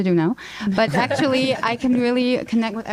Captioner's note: laughter